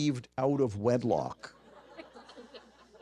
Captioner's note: audience laughter